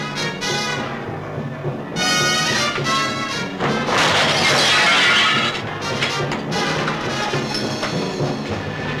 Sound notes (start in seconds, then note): 3.9 glass shattering; 6.8 dramatic music